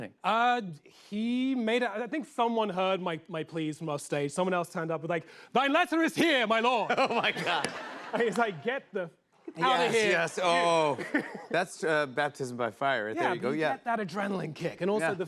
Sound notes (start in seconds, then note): 6.8 laughter